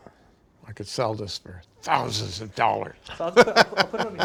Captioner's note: laughs